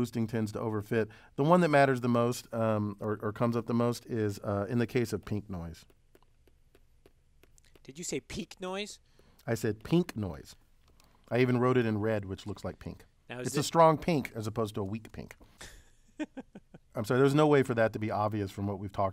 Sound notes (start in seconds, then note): 16.1 laugh